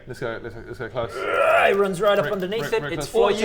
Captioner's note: grrrrgh